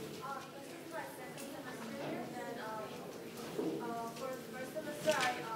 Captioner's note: speaking faintly